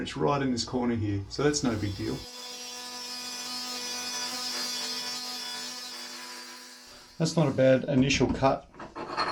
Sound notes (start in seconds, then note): 2.8 grinder buzzing